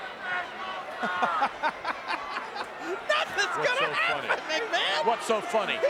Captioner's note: laughs